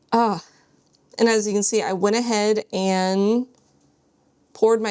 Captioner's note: none